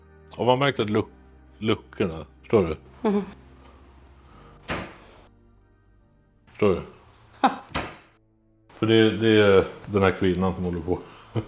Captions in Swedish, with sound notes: Har man märkt att luckorna.. Förstår du? Ja *Kökslucka låter* Förstår du? Ja! För det är den här kvinnan som håller på